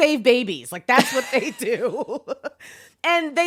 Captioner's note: laughs